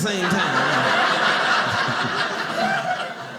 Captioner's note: audience laughing